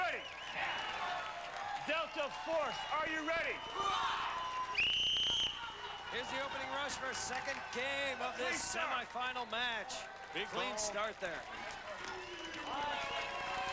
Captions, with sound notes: [cheers] Delta Force, are you ready? [cheers and applause] [whistle blows] Here's the opening rush for our second game Big ball. Clean start there.